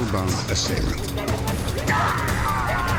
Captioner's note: shouting